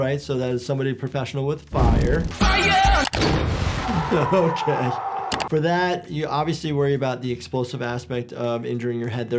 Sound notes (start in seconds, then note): 3.2 fireball booms; 3.2 Steve-O yells